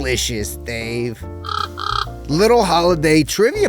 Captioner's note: bird cawing